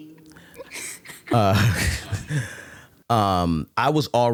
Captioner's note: laughing